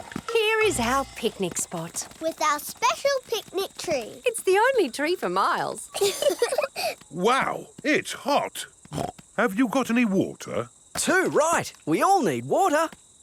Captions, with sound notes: Here is our picnic spot! With our special picnic tree. It's the only tree for miles. (LAUGHING) Wow! It's hot! (SNORTS) Have you got any water? Too right! We all need water.